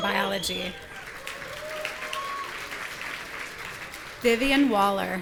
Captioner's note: audience cheering